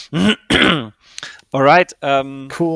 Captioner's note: clears throat